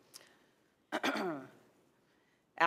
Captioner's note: clears throat